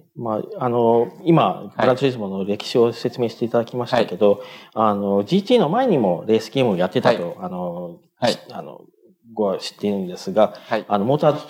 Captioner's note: speaking japanese